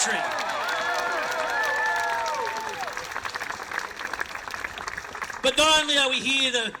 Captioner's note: crowd applauds